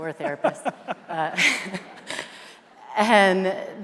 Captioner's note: laughing